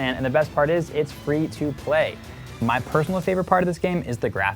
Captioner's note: none